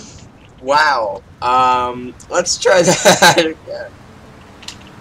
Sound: laugh

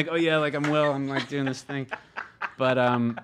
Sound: hosts laugh

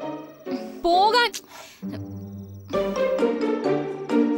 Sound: sighs

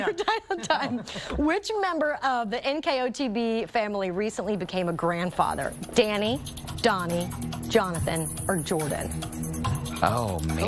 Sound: laughter

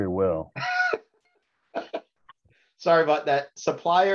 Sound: chuckles

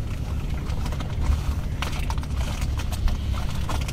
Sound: plastic rustling

